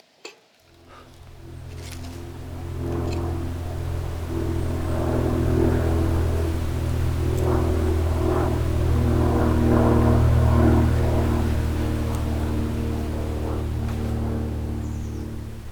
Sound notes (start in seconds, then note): 0.6 fun plane flying about